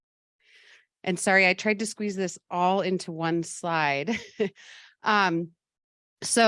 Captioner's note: laughs